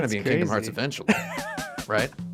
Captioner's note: laughs